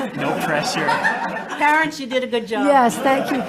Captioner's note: all laughing